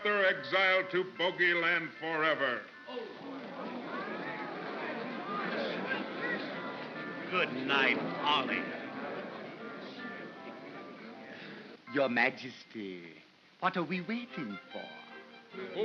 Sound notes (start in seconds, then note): 2.7 crowd gasps softly; 7.5 mocking tone